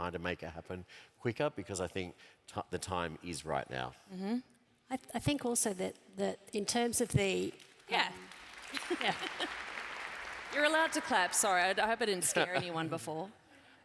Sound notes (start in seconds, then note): 7.6 applause